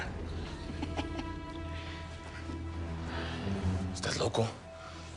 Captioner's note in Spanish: Risas